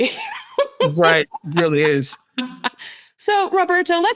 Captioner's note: laughs